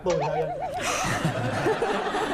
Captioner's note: gasps